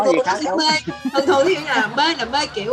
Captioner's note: laugh